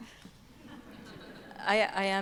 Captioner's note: audience laughing